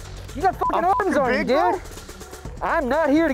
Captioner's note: beep